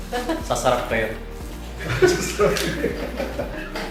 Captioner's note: laugh